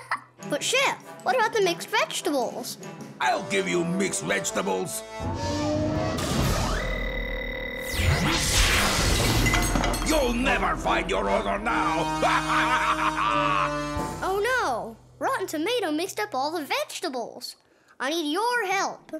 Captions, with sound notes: But Chef, what about the mixed vegetables? I'll give you mixed vegetables! You'll never find your order now! [evil laugh] Oh no, Rotten Tomato mixed up all the vegetables. I need your help.